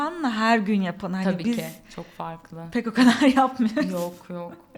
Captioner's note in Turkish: kahkaha